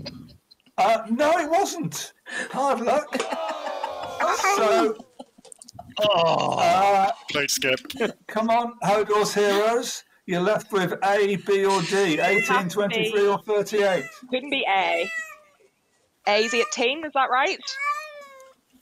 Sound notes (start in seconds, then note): 14.9 meowing